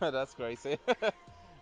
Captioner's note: laughs